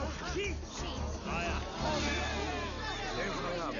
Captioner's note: crowd